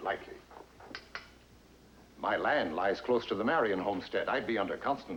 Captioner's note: taps Pipe